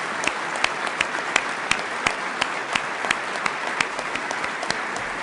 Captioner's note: applause